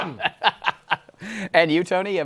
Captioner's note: laughs